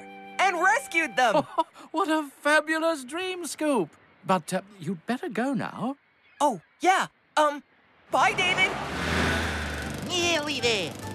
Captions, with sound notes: AND RESCUED THEM. ( Chuckles ) WHAT A FABULOUS DREAM, SCOOP. BUT, UH... YOU'D BETTER GO NOW. OH, YEAH. UM... BYE, DAVID. NEARLY THERE.